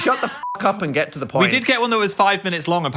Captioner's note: beep